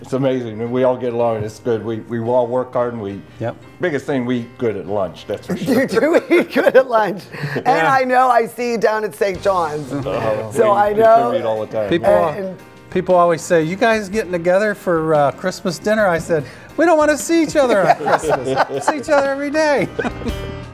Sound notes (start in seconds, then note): 17.5 laughter